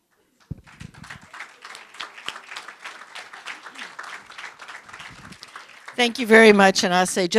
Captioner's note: applause